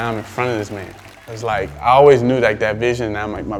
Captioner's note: cheers